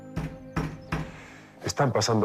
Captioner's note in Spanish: Toques en la puerta